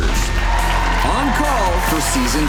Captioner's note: cheering